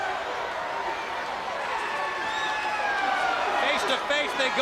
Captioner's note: crowd cheering